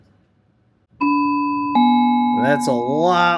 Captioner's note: Algo chimes